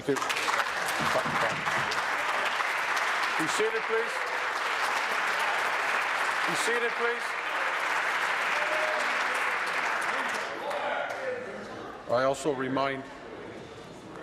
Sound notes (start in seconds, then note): 4.0 applause